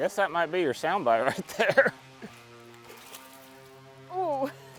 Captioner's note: laughing